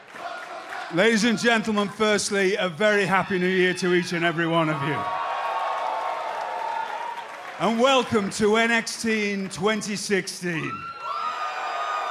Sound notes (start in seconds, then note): 0.0 fans chanting; 6.4 cheers and applause; 10.5 cheers and applause